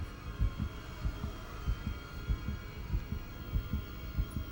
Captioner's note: heart Beating